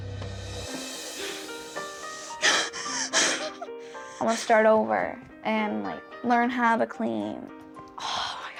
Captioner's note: cries